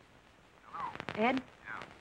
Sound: on phone

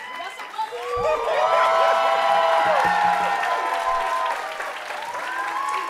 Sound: audience applauding and cheering

